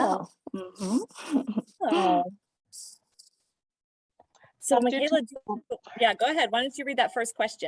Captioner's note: laughter